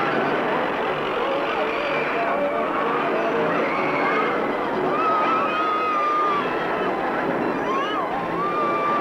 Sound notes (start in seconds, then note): 4.5 carnival riders yelling